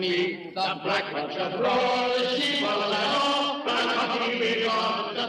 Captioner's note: echoing